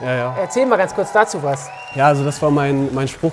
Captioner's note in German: Jubel